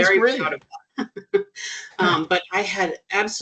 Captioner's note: chuckling